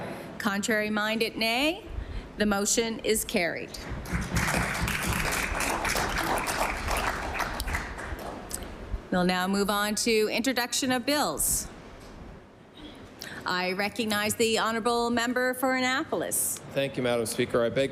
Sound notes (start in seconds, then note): 6.8 applause